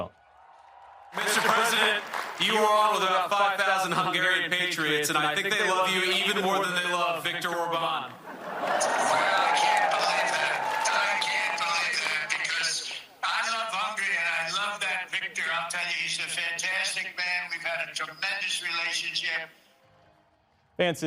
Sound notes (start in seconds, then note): 8.1 cheering